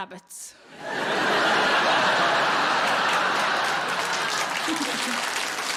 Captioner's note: audience laughing and applauding